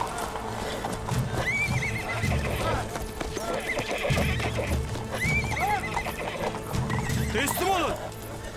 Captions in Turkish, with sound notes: (At kişneme sesi) (At kişneme sesi) Teslim olun.